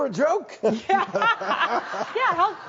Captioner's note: audience laughs